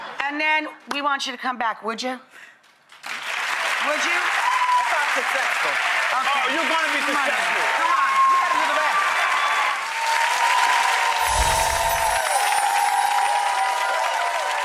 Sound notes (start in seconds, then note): 3.0 audience applauds; 7.7 audience cheers; 11.2 gentle wind chimes